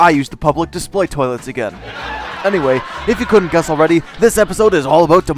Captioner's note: laugh track